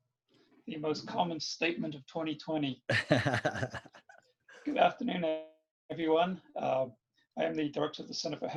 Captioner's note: laughs